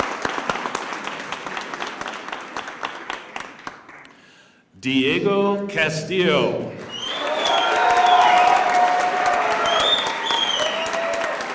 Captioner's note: cheers and applause